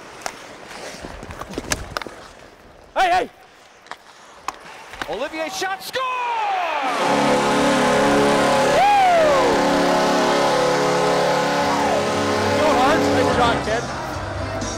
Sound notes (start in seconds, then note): 6.9 buzzer beating; 12.1 sound drowned by goal horn